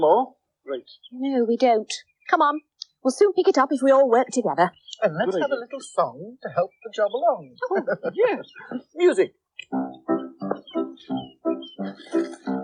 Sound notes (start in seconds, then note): 7.3 chuckling; 10.4 snaps fingers